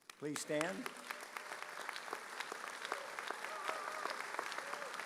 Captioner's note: audience applauding